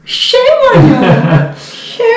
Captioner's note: laughs